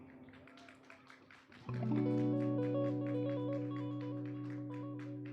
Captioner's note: audience applauding